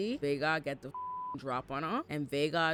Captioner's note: beep